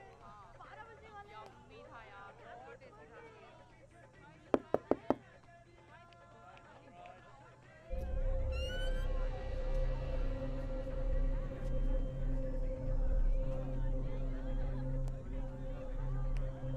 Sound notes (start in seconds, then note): 4.6 Knocks; 8.0 Door creaks open